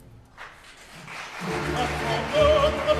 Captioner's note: applause